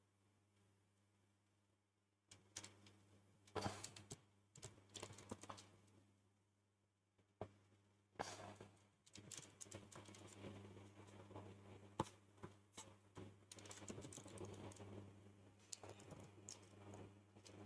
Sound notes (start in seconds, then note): 5.8 typing sounds